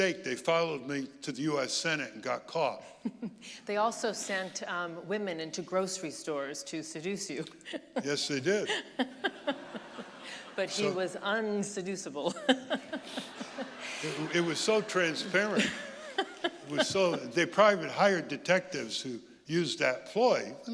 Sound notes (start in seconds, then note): 13.9 audience laughing